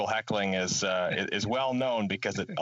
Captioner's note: laughing